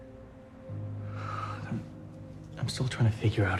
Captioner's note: sighs